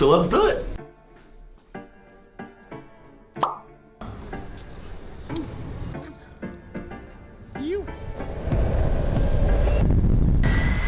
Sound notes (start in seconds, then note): 2.2 piano; 3.4 pop; 4.9 piano; 8.1 traffic noise